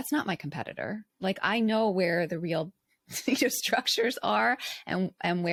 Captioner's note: giggles